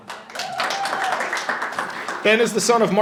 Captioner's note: audience applauding and cheering